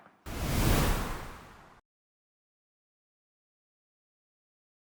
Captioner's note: dramatic whooshing